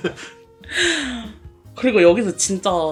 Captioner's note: inhaling deeply